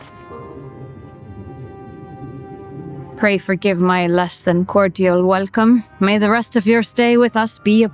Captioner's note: laughs